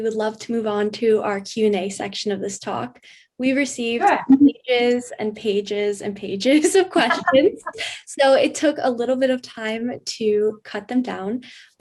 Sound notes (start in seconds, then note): 7.0 laughs